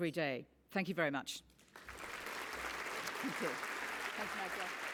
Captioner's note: applause